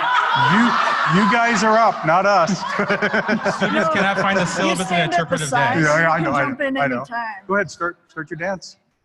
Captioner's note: applause